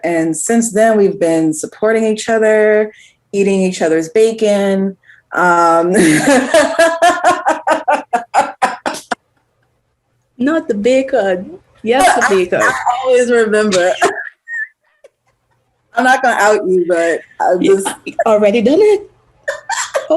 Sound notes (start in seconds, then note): 6.0 laughs; 13.6 they laugh